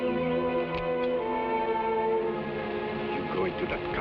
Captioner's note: suspenseful music; pistol clicks